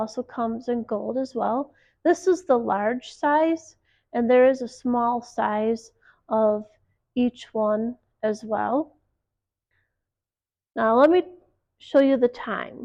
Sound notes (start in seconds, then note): 10.8 watch announces time